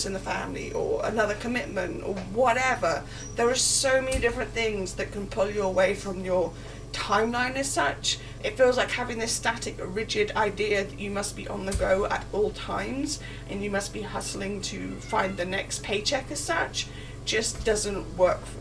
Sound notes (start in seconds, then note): 14.7 kitten meow